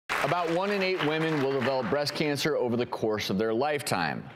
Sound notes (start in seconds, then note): 0.0 applause